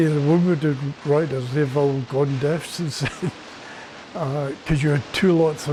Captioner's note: laughs